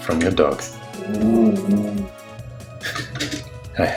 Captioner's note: growling